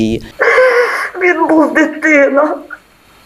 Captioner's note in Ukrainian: плаче